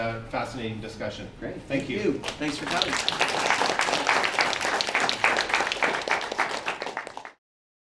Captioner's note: audience applauses